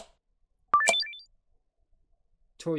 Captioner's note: completion sound